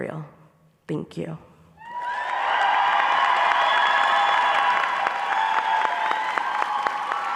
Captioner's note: applause